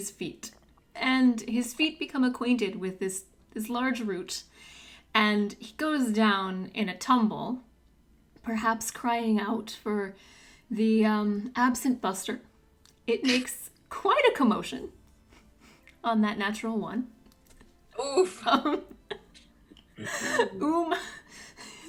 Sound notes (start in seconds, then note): 19.7 laughs